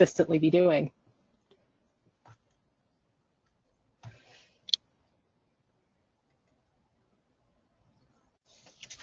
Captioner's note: silence